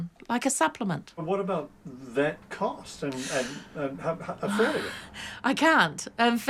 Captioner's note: sighs